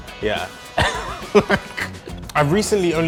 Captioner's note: laughing